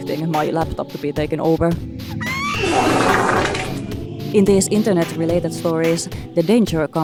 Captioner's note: child screams with loud diarrhea noises